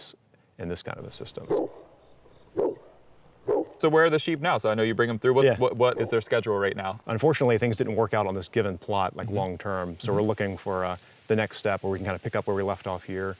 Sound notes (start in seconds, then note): 1.4 dog barks